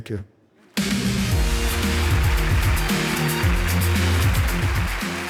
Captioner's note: audience applauding; upbeat music